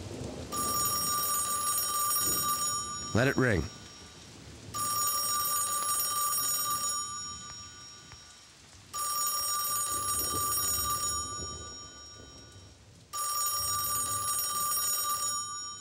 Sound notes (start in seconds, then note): 0.6 ringing; 4.8 ringing